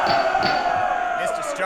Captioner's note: men cheer and a gavel is heard